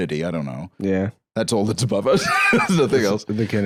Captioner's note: laughs